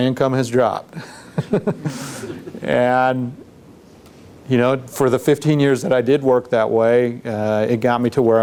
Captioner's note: laughs